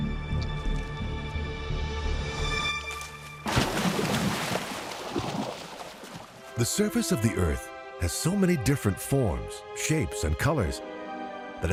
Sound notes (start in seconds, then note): 2.8 water splashing